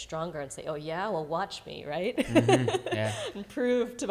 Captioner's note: laughs